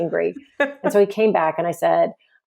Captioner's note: laughs